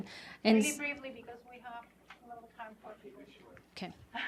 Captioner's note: voice drops